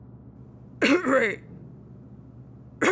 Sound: cough; cough

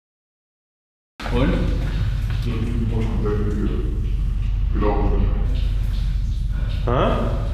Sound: talking Luxembourgish

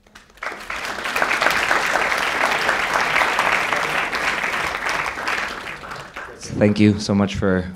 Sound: applause

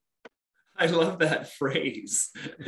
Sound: laughing

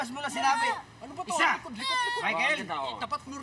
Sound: whines

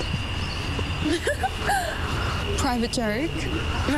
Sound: laughter

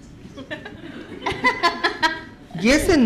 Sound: laughing

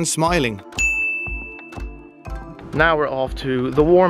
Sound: bell dings

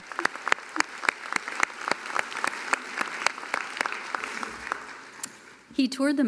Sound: applause

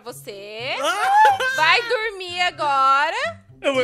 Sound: laughs

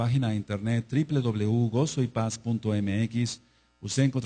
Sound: Spanish

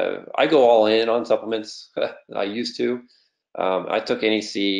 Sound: laughs

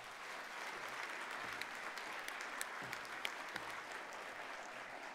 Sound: applause

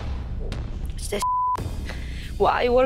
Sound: beeping

